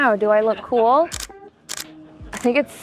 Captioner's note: shutter clicking